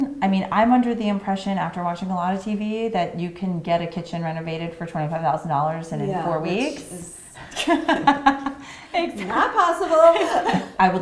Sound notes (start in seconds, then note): 8.9 laughing